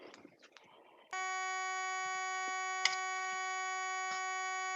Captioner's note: alarm buzzing